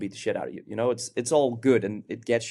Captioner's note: none